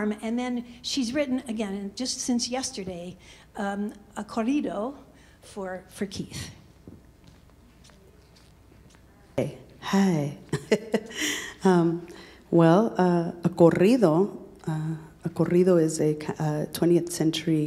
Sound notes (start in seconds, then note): 4.3 speaking in Spanish; 10.5 laughs; 13.2 speaking in Spanish